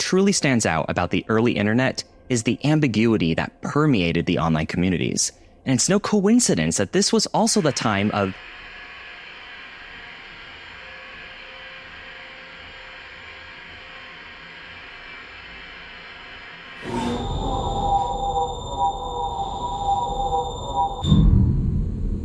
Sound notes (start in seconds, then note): 13.7 TV turns on